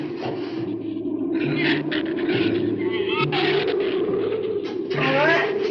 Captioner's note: wind howls; shrews chatter